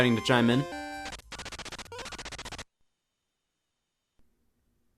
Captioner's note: typing